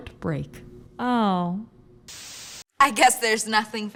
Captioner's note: TV static